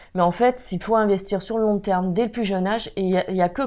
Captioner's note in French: none